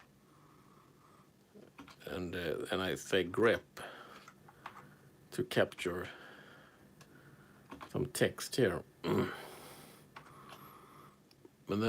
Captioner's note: keyboard sounds